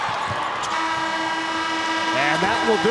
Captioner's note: horn blasts